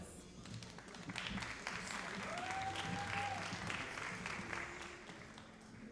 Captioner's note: all applauding and cheering